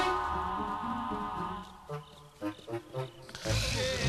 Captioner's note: crickets chirping; all snoring